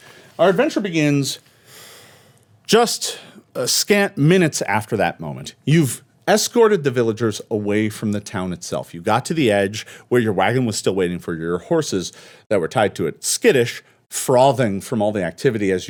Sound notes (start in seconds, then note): none